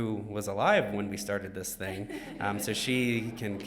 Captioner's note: woman chuckles